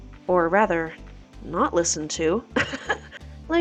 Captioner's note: laughing